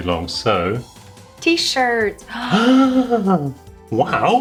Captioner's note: both gasping